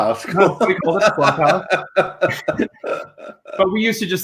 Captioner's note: laughs